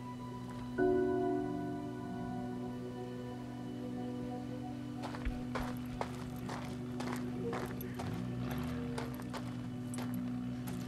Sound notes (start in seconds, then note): 4.8 gravel crunching; 8.5 car approaching